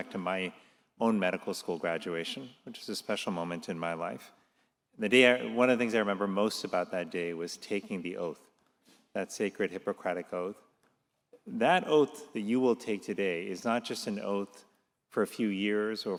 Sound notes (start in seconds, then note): none